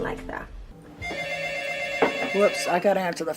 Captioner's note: phone rings